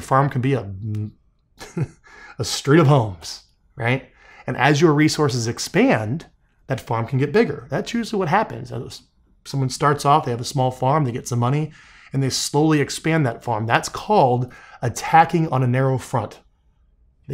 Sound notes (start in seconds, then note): 1.6 laughing